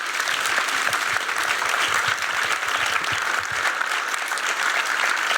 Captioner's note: applause continues